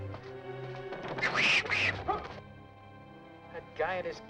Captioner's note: Sam cries out; cat yowls